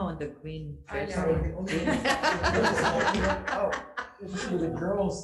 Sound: group laughing

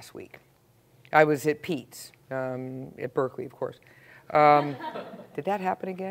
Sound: laugh

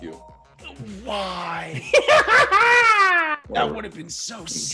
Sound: laugh

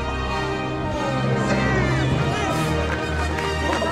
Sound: cheering

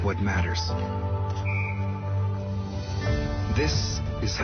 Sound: whistle blowing

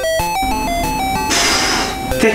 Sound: exhalation

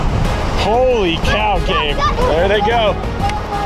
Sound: children cheering

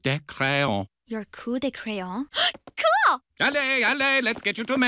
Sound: gasps

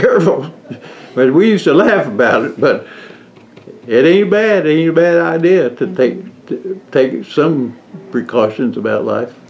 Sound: laughs

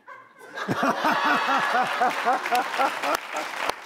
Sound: laughing

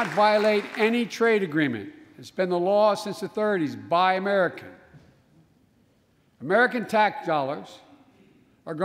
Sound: applause

